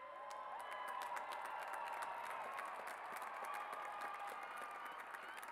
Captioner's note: cheers and applause